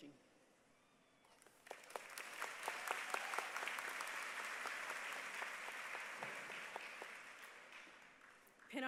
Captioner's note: applause